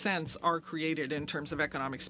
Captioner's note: speaking French